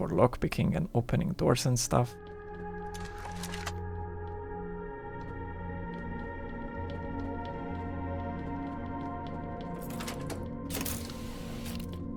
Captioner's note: ingame sounds